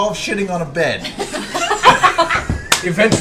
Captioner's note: laughter